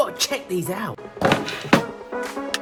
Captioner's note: wood thuds loudly; upbeat music